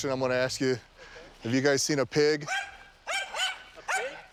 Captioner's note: dog barking